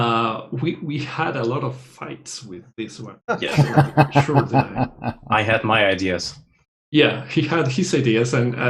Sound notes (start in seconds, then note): 3.4 laughter